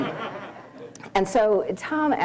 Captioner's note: laughter